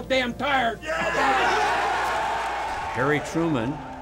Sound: group cheering

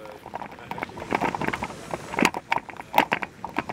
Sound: foot steps

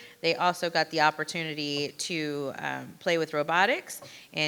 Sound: none

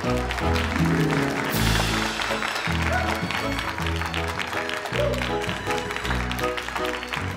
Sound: more applause

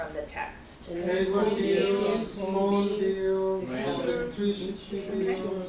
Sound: students murmuring

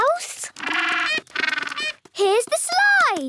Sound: honking

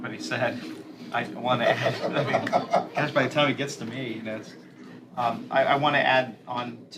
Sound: laughter

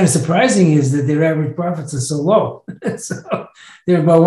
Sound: chuckles

